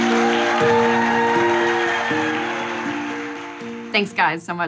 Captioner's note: applause